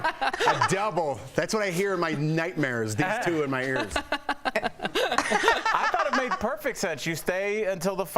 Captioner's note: laughter